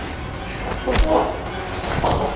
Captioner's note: punching